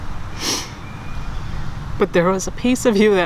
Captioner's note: inhales